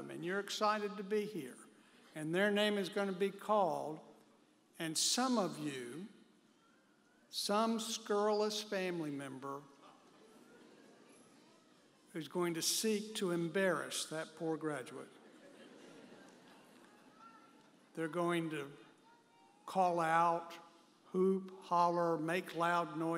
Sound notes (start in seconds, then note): 10.4 audience member chuckles; 15.1 audience members chuckle